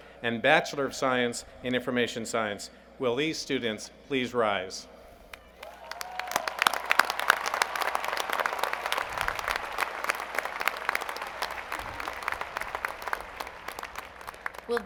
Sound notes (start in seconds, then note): 10.8 applause